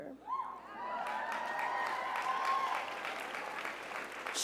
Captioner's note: crowd cheers